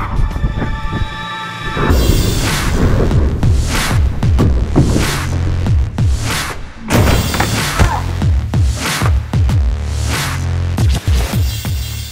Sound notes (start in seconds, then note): 7.7 grunts